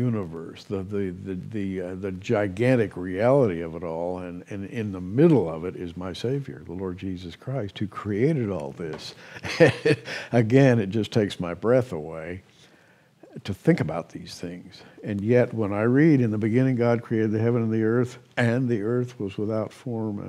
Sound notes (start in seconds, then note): 9.2 chuckles